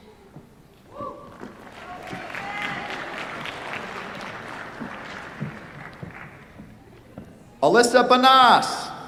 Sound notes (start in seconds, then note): 1.5 applause